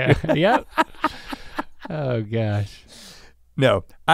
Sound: laugh

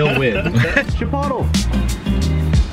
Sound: group laughs; calm instrumental music

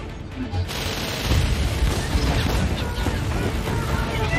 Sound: explosions

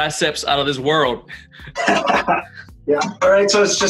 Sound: laughs

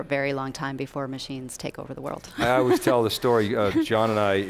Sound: laughs

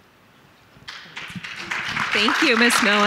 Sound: audience applauding

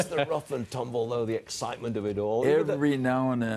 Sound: laughter

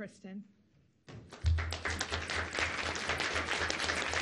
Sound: audience applauds

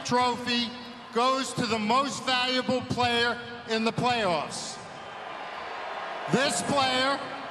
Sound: cheering

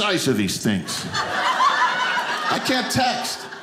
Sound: audience laughing

